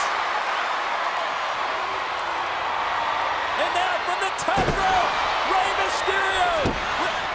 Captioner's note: applause